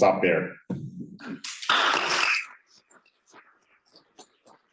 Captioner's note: applause